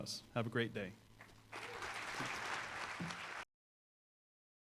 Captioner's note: applause